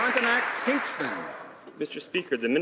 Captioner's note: some Applause